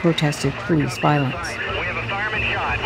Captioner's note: soundbite of archived recording